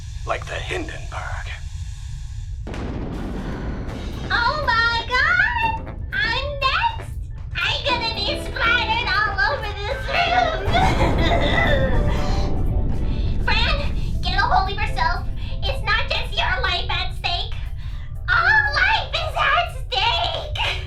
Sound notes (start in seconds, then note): 0.0 sssssss; 2.6 huge explosion; 4.2 screwball music playing